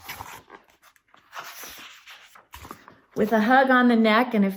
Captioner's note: turns page